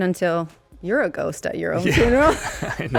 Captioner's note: laughing